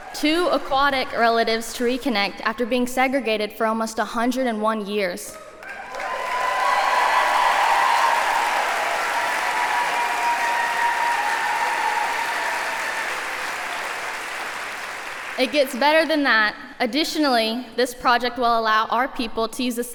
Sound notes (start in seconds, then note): 5.4 applause